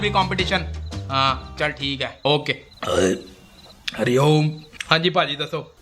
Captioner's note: burps